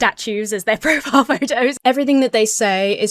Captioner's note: laughs